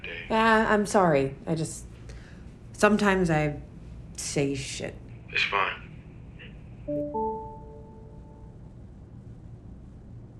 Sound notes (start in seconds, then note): 6.9 video call dings